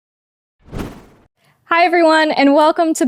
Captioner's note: air whooshes